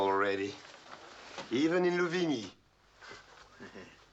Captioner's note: chuckles